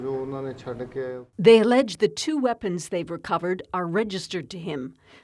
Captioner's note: speaking alternate language